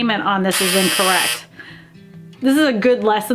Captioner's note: buzzer blares